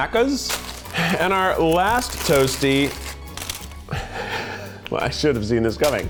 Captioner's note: laughs